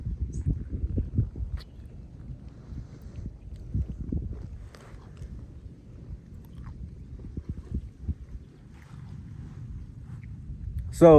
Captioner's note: chewing